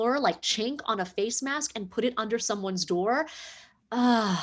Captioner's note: exhales